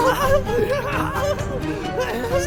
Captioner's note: laughing